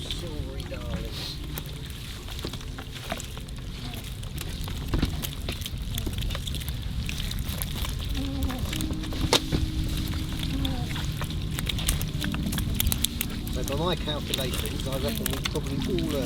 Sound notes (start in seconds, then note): 8.5 sound of fish and rudderstock wining